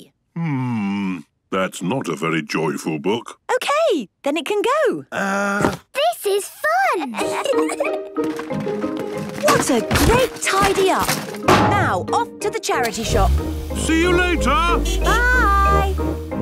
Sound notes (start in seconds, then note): 7.1 kids giggling; 15.1 honking